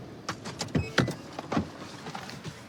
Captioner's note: beeping